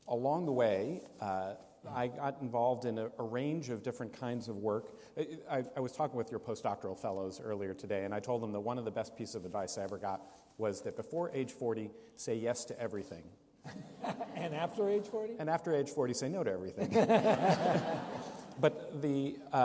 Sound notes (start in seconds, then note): 16.8 laughter